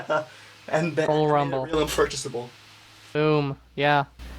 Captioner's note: laughing